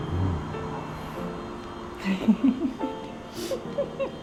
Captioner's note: laughing